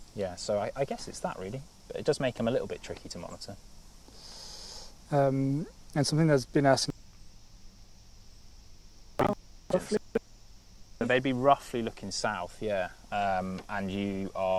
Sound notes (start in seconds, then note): 9.7 break in transmission